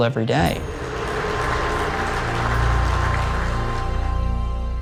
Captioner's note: applause